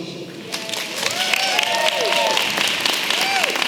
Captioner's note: applause